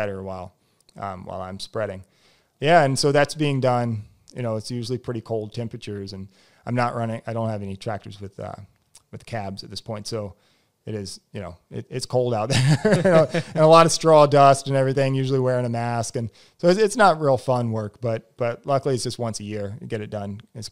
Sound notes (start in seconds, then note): 12.5 laughs